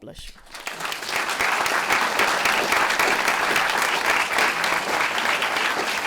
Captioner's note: applause